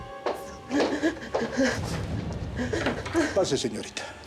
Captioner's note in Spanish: sollozos